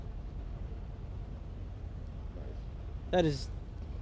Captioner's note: street Sounds